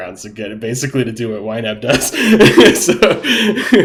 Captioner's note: laughing